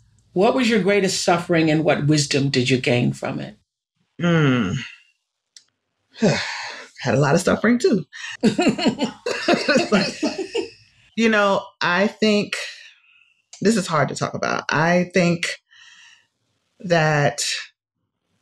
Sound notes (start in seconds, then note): 5.7 sighs; 8.4 laughter